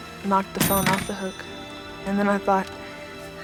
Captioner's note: phone dings